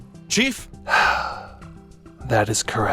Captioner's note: sigh